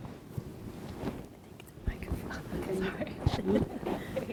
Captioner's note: murmuring